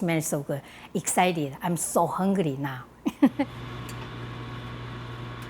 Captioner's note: laughs